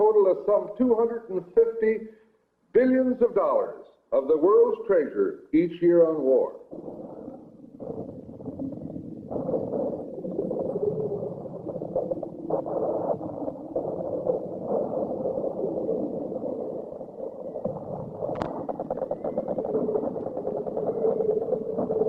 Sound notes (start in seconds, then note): 6.6 wind sounds